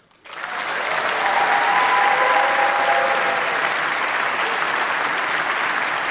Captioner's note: audience applauding; audience cheering